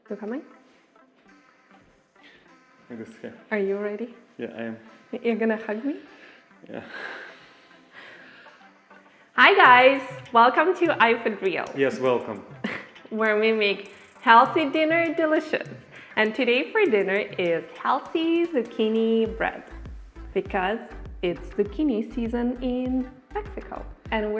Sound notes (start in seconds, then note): 1.4 light techno music; 11.5 laughs